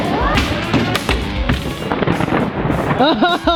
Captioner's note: robots clattering and thudding; thunder rumbling